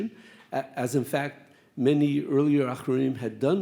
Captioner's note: speaks Hebrew